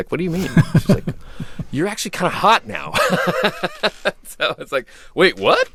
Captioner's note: laughter; laughter